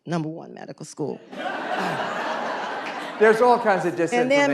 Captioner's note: laughter